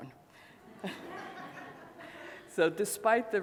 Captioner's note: laughing